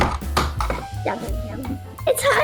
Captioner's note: bonk!; grumbles